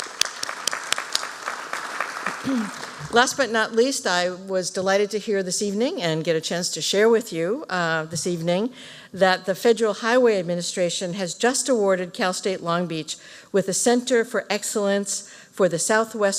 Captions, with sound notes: [ APPLAUSE ] LAST BUT NOT LEAST, I WAS DELIGHTED TO HEAR THIS EVENING AND GET A CHANCE TO SHARE WITH YOU THIS EVENING THAT THE FEDERAL HIGHWAY ADMINISTRATION HAS JUST AWARDED CAL STATE LONG BEACH WITH THE CENTER FOR EXCELLENCE